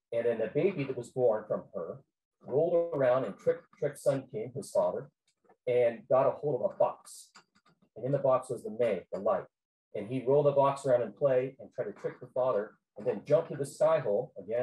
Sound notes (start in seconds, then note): none